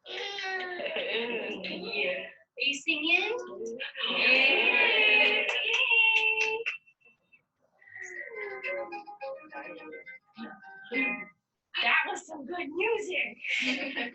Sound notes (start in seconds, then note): 0.0 babbles; 4.0 cheering